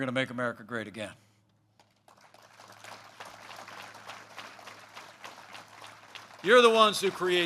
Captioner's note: applause